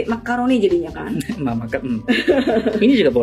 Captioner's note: laughs